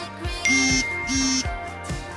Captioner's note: text notification